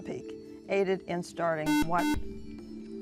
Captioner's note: buzzer